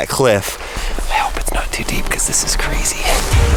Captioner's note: whispers